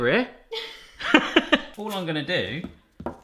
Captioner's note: laughing